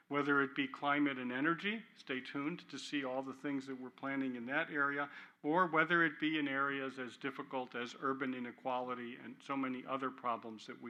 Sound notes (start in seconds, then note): none